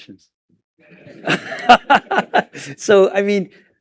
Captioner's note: laughter